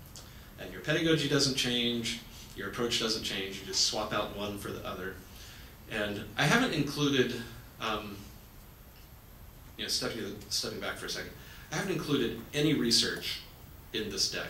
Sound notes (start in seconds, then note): none